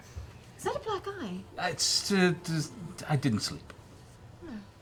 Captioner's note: stammering